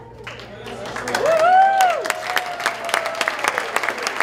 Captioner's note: applause